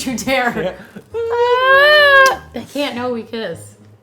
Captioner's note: whimpers; lips smack